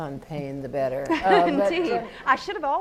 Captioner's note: laugh